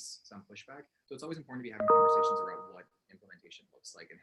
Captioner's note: chime drowns out speech